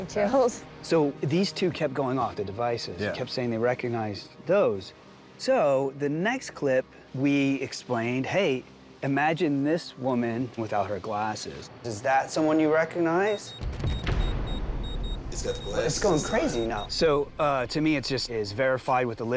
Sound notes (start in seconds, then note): 13.2 beeping increasing